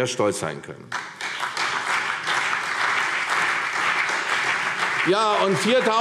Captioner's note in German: Beifall CDU und BÜNDNIS 90/DIE GRÜNEN